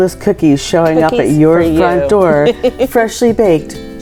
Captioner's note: laughs